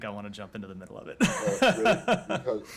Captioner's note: laughter